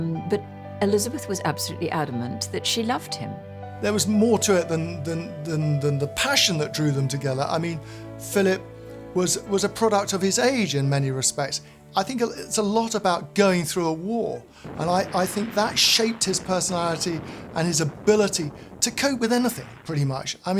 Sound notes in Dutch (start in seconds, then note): 14.6 granaat explodeert; 14.7 water zoemt